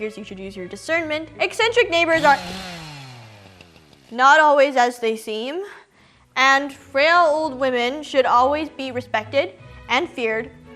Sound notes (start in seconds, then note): 2.0 eccentric chainsaw noises